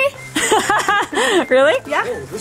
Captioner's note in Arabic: يضحك